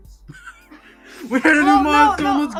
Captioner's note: laughing